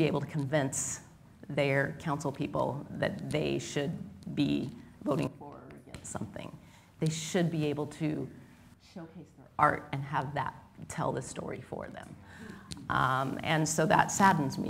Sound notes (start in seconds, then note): none